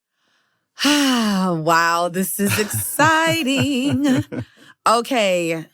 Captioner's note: sighs